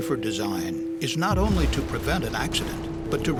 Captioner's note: sound of explosion